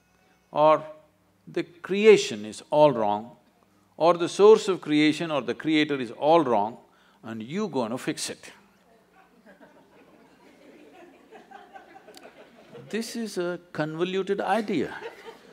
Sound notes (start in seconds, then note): 9.1 laughter